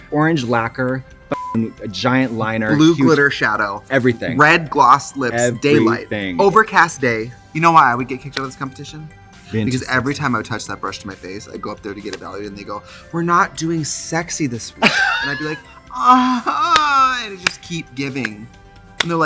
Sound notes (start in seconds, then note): 15.6 moans